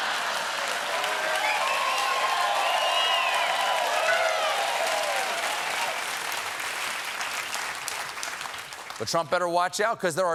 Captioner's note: applause; laughter